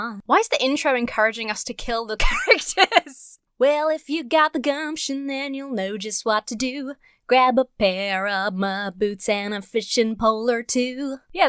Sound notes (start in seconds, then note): 2.2 laughs